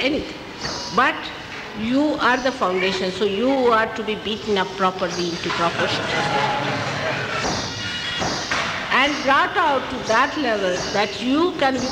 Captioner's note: laughter